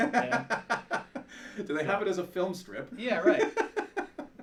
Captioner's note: laughter